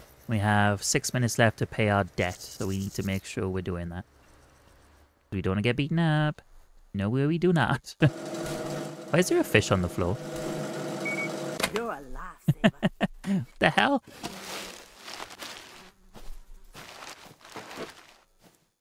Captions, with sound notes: We have six minutes left to pay our debt, so we need to make sure we're doing that. We don't want to get beaten up. No way we do not. Why is there a fish on the floor? [laughs] The hell?